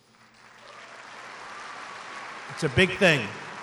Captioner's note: applause